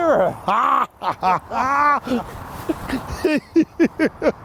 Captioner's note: both laughing